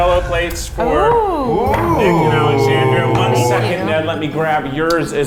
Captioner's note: judges gasping